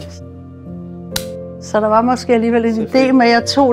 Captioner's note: champagne popping